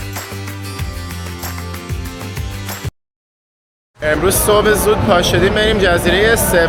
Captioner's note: applause